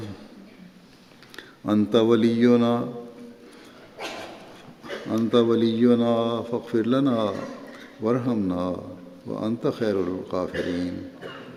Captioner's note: Arabic